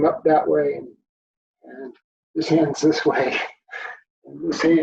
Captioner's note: chuckles